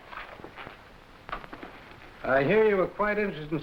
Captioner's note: footsteps echoing